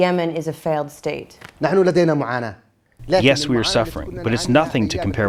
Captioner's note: through translator